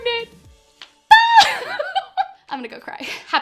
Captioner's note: laughs